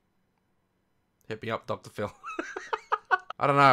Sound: laughs

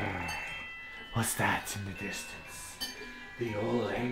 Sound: grrr; whisper

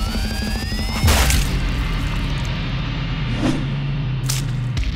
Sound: guts slashing

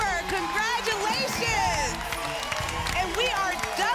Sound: applause and cheering

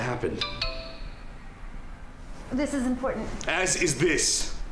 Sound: cell phone rings

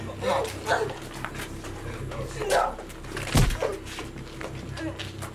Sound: London panicking

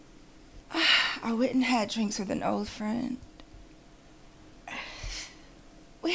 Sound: sighs

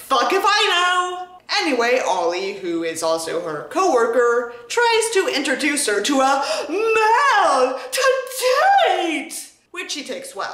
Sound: gasp

